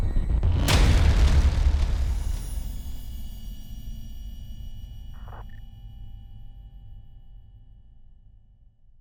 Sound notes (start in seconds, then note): 5.4 beeping